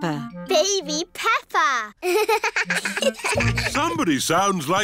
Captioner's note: both laugh